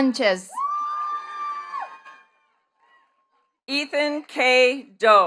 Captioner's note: attendees cheering and clapping